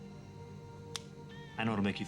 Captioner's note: fingers snapping